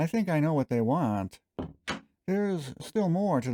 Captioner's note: door closing